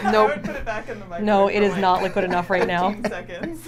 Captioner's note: laughs